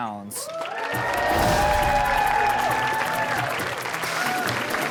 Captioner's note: audience cheering and clapping; upbeat music